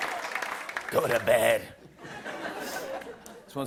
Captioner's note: laughter